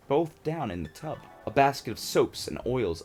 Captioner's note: dreamy sound effect